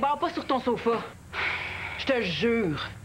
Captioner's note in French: Soupir